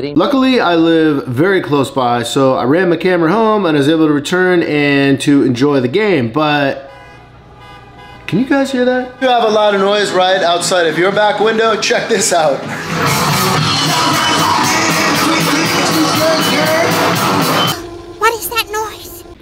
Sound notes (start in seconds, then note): 6.8 car horns honking; 13.3 high energy music